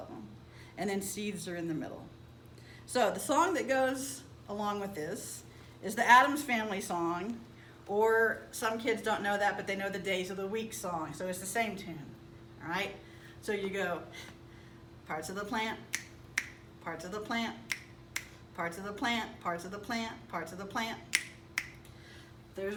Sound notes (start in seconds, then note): 14.0 singing; 16.3 snap snap; 17.7 snap snap